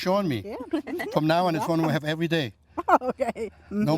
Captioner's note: giggles; laughs